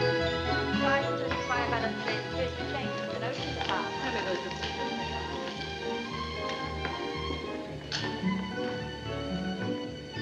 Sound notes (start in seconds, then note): 0.4 indistinct chatter